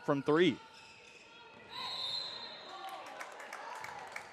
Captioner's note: whistle blows